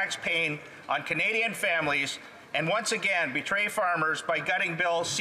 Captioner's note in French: voix de l'interprète